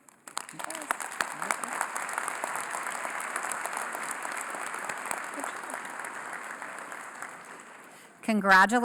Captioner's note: applause